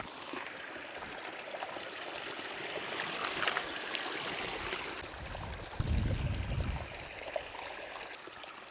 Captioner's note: water sounds